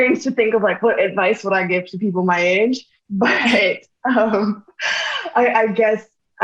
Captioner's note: laughs